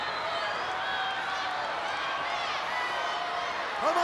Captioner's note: crowd cheering